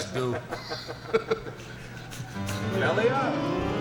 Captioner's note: group laughs